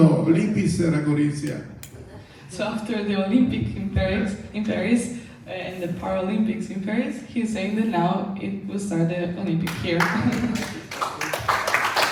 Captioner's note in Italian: Applauso